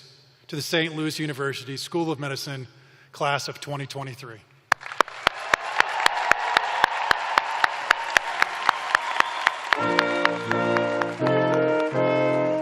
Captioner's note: cheers and applause